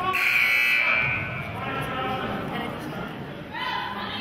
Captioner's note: buzzer honks